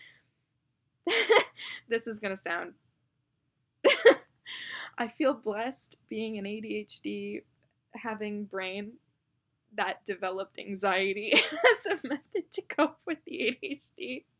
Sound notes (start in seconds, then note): 1.1 laughs again; 3.9 LOUD laugh; 11.2 laughs